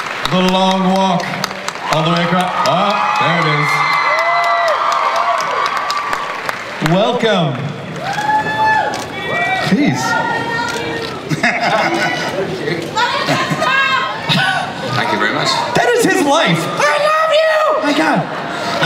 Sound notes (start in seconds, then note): 4.1 audience cheers; 10.1 voiceover; 11.4 audience cheers